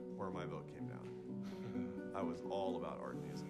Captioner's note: chuckles